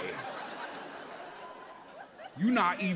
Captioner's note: audience laughs